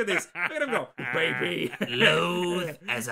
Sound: laughing

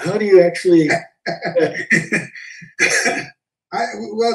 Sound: laugh

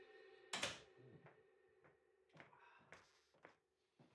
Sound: door clicking

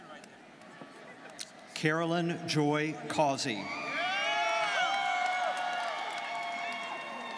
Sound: students cheering

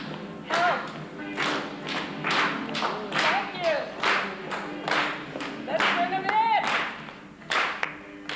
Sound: clapping continues; music and rhythmic clapping

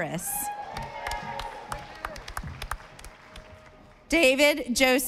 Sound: audience applauding

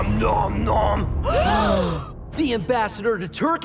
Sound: gasps

